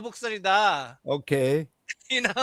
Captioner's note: non-english speech